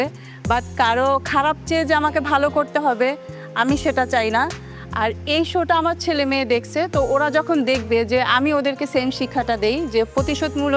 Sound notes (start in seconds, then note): none